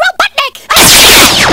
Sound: 𝐁𝐋𝐀𝐌

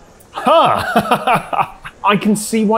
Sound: laughs

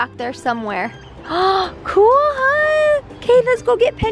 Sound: gasps

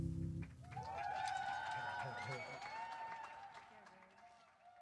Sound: clapping

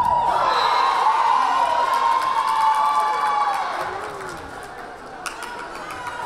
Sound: crowd cheering; whistle blaring

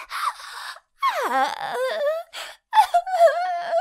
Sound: moaning; crying

